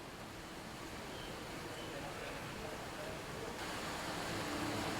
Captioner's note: birds chirping; calm music